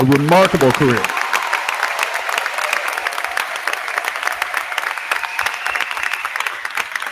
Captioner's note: crowd cheering; crowd clapping